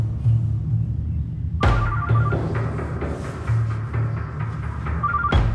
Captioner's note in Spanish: Suena el celular